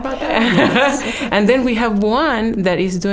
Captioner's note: laughing